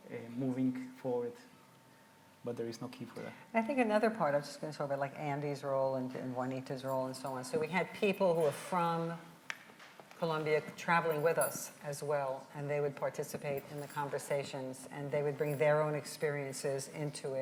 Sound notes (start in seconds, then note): none